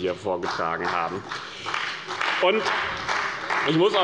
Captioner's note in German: Beifall bei dem BÜNDNIS 90/DIE GRÜNEN und der CDU